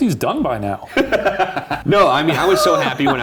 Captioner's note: laughing